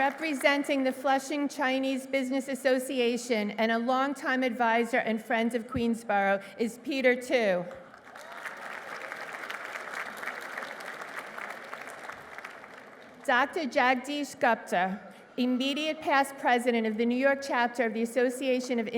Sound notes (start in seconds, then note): 9.3 applause